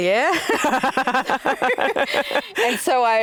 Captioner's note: both laughs